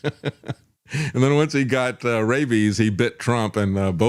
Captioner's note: laughs